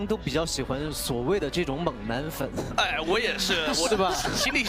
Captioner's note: laughs